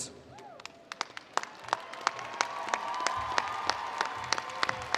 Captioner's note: attendees applauding